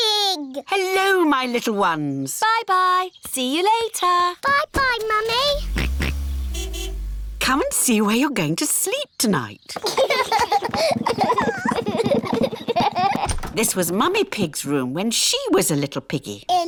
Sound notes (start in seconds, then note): 5.3 car horn honks; 5.4 george oinks; 9.8 children laugh